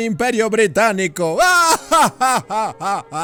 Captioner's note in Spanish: risa malvada